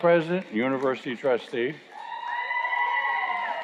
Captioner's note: cheers and Applause